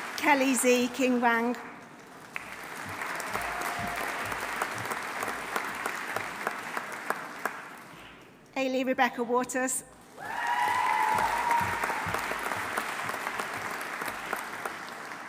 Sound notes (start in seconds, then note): 1.9 audience applauding; 2.8 audience cheering; 10.2 audience cheering; 10.2 audience applauding